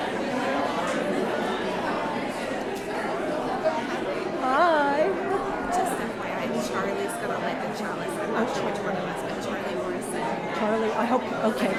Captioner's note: greeting chatter